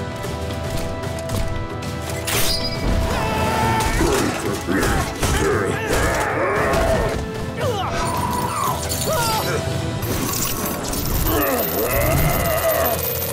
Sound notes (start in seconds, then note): 3.4 grunting; 11.2 grunting